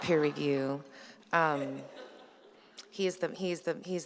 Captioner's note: laughter